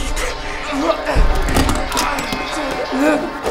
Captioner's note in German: waffe klappert